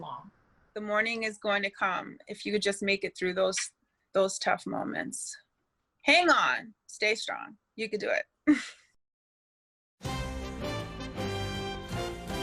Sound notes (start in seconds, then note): 8.4 laughter